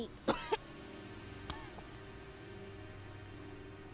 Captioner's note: coughs